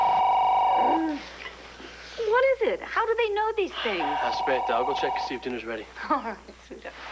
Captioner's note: telephone rings